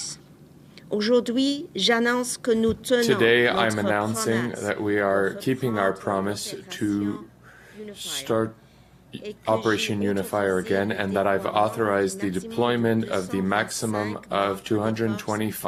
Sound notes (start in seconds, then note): 5.6 speaking French